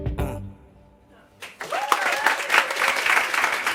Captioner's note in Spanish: Aplausos